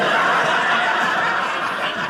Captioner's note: audience laughing